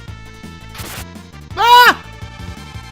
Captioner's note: more girlish screaming